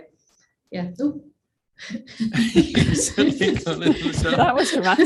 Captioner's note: all laughing